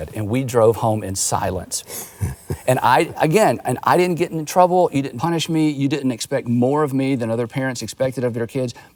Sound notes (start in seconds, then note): 1.8 laughing